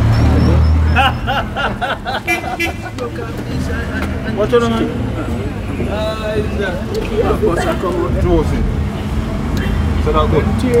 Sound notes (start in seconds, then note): 0.2 background conversations; 6.3 background conversations